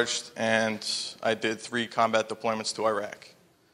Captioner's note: none